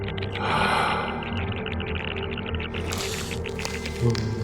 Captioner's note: Max gasping